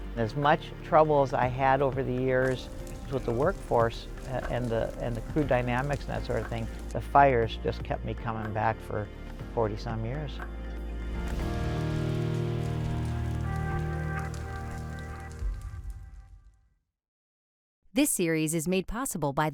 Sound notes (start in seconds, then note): 10.9 slow solemn music; 11.0 fires flickering